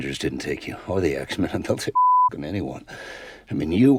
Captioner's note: beeping